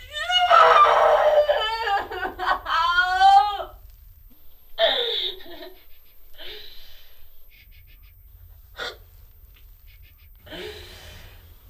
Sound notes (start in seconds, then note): 0.0 loud crying; 7.3 shushing; 8.7 stifled crying